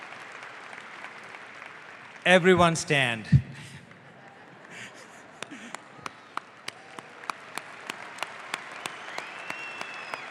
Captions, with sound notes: Everyone stand. (audience applauds)